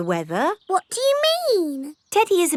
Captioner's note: in normal voice